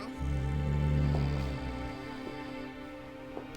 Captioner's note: dog growls